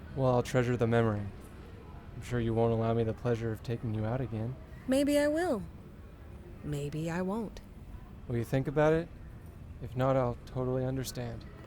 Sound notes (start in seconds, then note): none